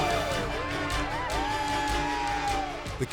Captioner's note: people shouting